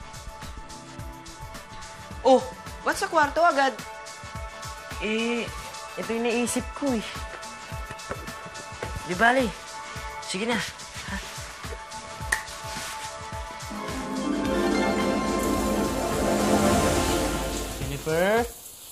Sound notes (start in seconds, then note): 15.3 water running